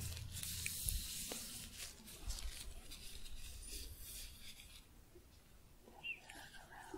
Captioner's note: shuffling, glove sounds